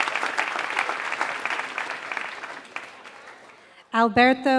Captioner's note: applause